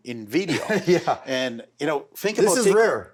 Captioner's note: laughs